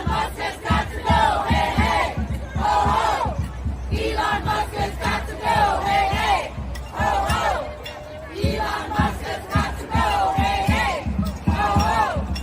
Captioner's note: chanting